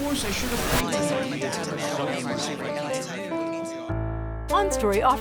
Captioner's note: multiple voices chattering